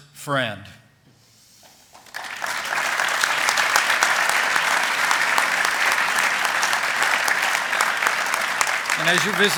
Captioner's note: applause